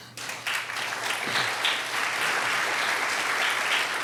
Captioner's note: audience applauding